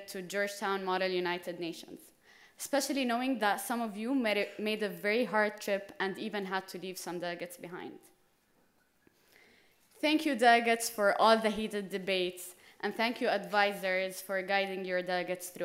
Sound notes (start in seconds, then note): none